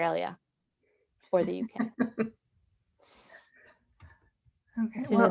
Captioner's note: laughs